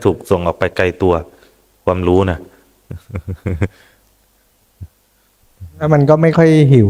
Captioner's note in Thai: เสียงหัวเราะ